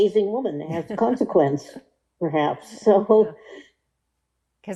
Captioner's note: laughing